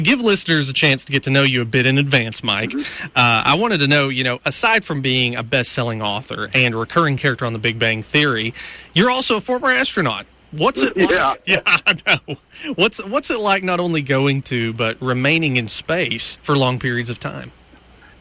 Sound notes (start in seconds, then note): 10.7 laughing